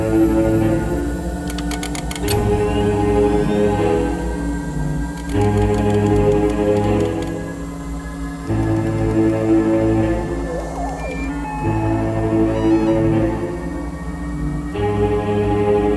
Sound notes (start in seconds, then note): 2.9 tense ominous music; 6.8 dials clicking